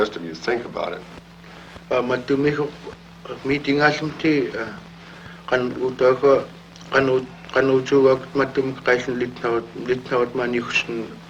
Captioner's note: speaks in Yup'ik